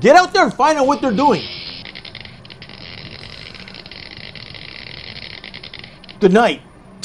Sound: more electric crackling

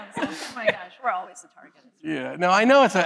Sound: laughter

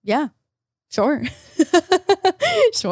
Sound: laughs

